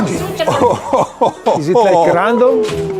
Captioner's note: energetic rock music; group laughs